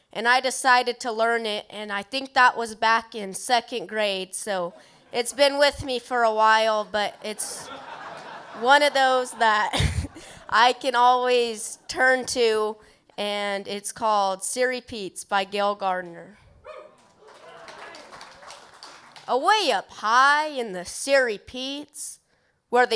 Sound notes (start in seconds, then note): 7.0 laughter; 17.0 applause